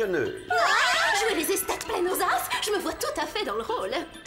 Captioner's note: shrieks